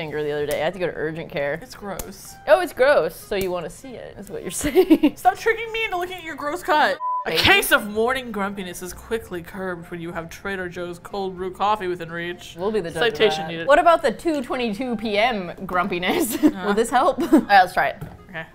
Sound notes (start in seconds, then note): 4.5 laughs; 17.1 laughs